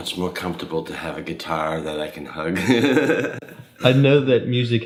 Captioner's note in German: lacht